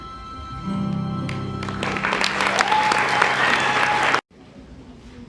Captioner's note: song ends; applause and cheering